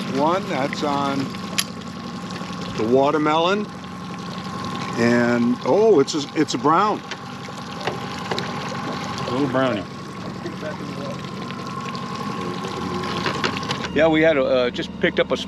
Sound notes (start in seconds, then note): 0.0 fish splashing; 9.2 boat engine idling